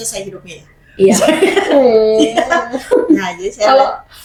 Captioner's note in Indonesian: tertawa